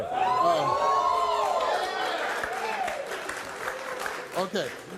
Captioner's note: audience cheers